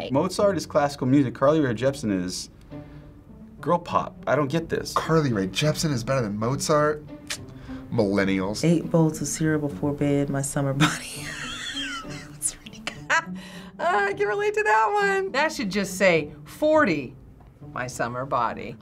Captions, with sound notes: - Mozart is classical music. Carly Rae Jepsen is girl pop. I don't get this. - Carly Rae Jepsen is better than Mozart? (clicks tongue) Millennials. - "Eight bowls of cereal before bed, my summer body." (chuckles) That one's pretty good. - Ha. Ah, I can relate to that one. - That should just say, "40, my summer body."